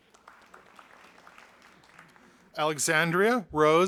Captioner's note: audience applauding